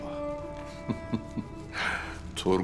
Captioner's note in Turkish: Gülme sesi